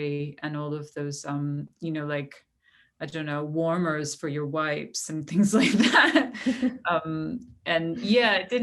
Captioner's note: laughter